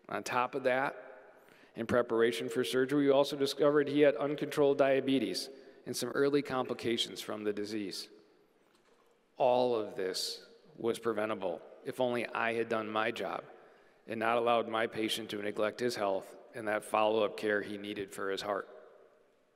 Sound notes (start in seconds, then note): none